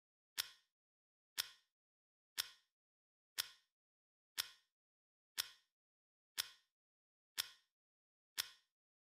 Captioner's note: clock ticking; clock ticking; clock ticking